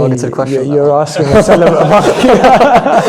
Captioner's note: laughs